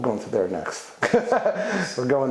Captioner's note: laughs